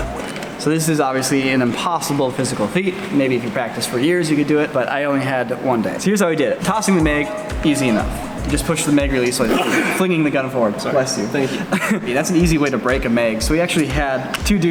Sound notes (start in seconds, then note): 9.4 loud Sneeze; 11.5 short Laughter